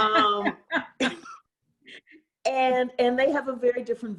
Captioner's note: laughter